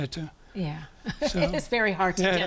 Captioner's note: laughs